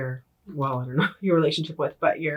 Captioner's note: laughs